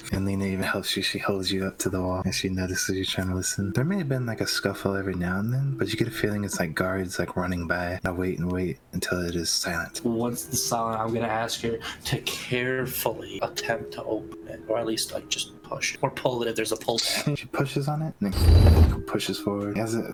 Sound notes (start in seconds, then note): 18.6 fhhhooossss